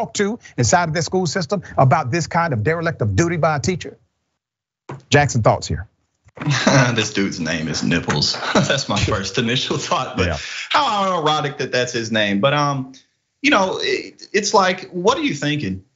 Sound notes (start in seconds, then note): 6.4 laugh